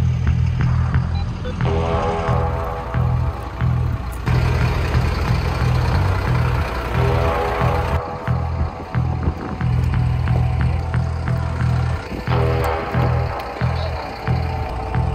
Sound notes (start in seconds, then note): 4.4 engine running